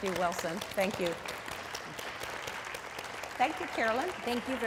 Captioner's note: audience clapping